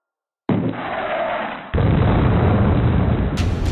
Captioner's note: explosion afar